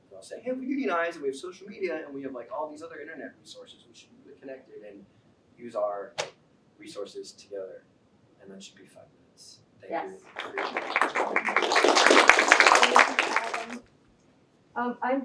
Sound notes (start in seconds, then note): 10.2 applause